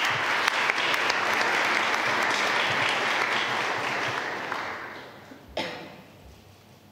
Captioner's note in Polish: oklaski